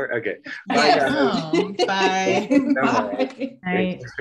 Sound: laughing; laughs

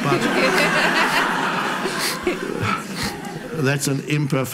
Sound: audience laughs

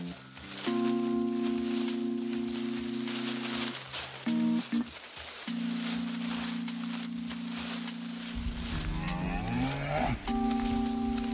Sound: cows moving through brush, mooing

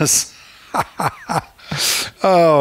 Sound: laughs

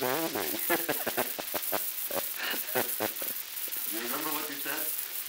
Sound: laughter

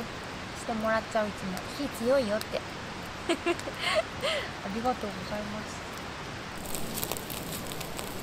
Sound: small fire

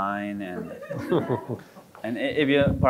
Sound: audience chuckling

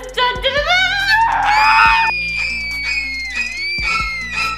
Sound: sings; squeals; spooky horror music

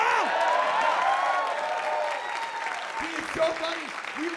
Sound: applause

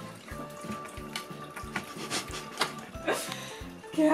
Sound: laugh

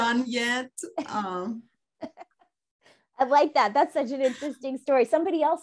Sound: laughs

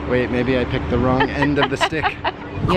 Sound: laughs

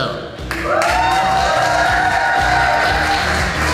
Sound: crowd; clapping and cheering

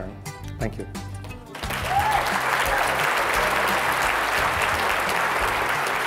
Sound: applause

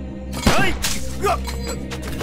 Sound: gunshot

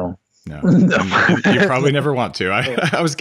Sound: laughs

